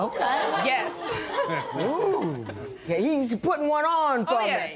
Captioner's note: laughter